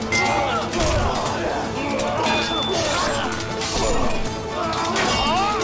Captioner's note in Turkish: Kılıç sesleri; İnilti sesleri